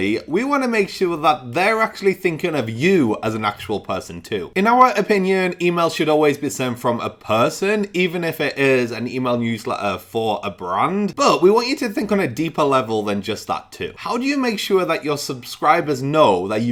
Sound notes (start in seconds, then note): none